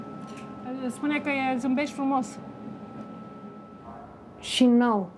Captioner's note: speaks Romanian